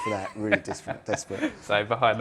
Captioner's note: laughing